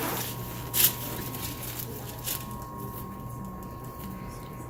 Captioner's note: paper crinkling